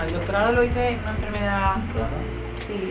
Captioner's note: none